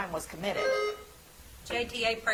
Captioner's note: bell ringing